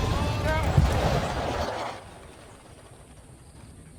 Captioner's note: metal scraping against the gravel